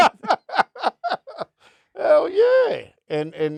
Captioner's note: laughing